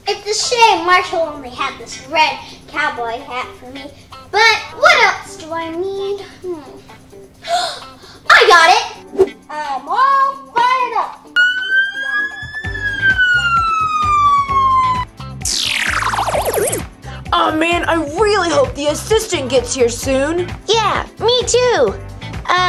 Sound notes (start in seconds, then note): 7.4 gasps; 11.4 fire engine siren; 15.4 space noises